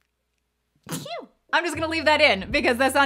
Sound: sneezes

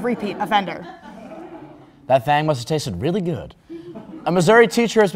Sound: crowd Laugh

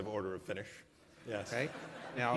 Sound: laughter

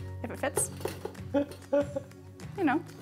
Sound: laughing

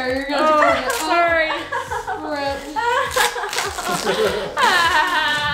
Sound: cries

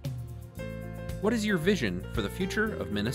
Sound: voiceover

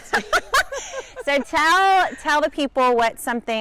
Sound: laughs

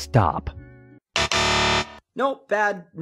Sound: incorrect buzzer sound

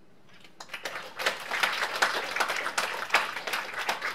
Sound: applause

